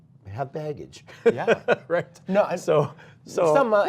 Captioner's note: laughter